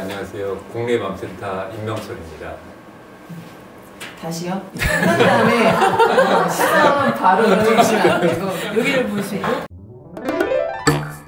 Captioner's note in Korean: 웃음소리